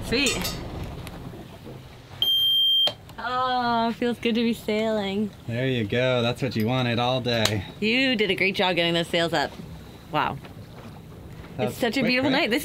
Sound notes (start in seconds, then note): 2.1 boat beeping